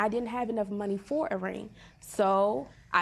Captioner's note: none